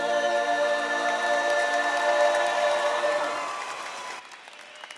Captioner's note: audience applauding